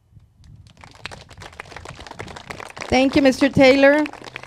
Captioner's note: crowd claps